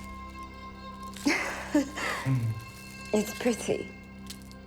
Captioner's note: Anna chuckles